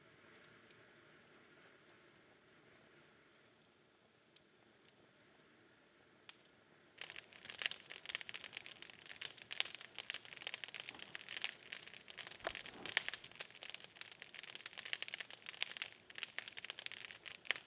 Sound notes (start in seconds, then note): 7.1 fire crackling